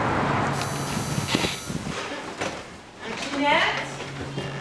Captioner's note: door buzzing